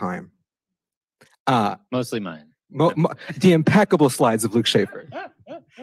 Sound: jokingly; chuckles; laughter

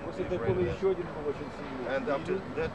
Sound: non-english speech

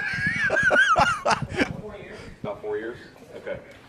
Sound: laughs

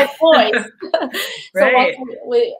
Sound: both laugh

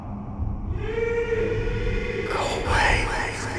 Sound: ghostly voice

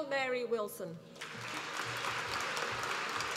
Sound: applause

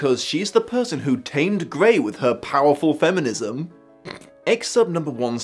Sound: snort

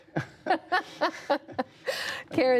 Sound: laughter

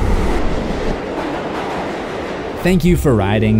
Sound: train rumbling

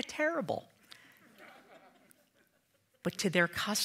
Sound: audience laughing

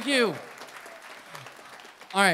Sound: applause

